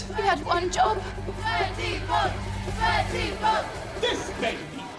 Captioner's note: crowd chanting